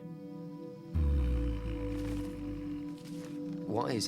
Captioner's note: low moan